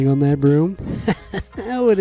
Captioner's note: laughs